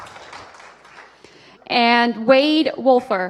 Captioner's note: applause